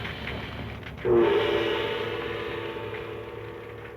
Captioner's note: gong chiming